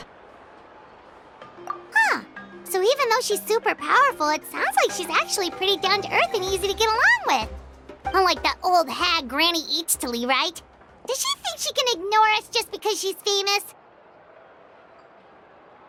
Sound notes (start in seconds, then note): none